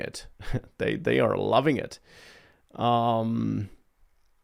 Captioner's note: laughs